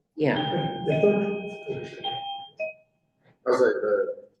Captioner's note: doorbell chime sound